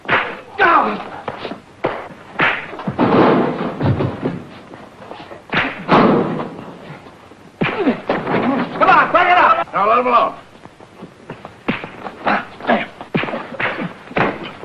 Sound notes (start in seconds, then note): 0.1 fists thudding; 3.2 lockers banging; 5.4 fists thudding; 11.2 fists thudding